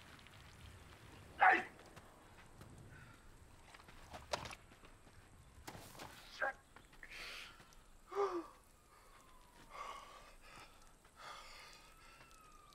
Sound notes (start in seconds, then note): 1.5 shouting; 9.0 distant sirens blaring